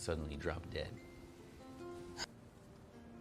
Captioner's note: Charly sighs